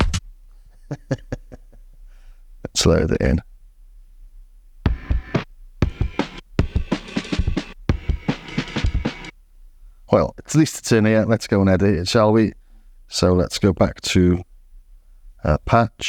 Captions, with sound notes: (laughs) Let's load it in. Well, at least it's in here. Let's go and edit it, shall we? So let's go back to our patch.